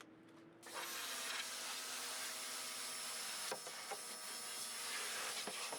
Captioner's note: pressure washer whirring